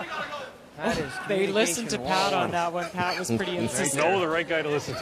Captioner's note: laughter